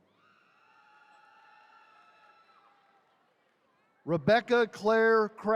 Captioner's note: attendees cheering